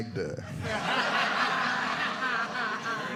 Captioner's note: audience laughing